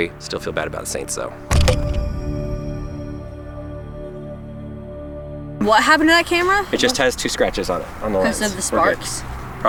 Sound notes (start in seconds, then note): 1.6 hand banging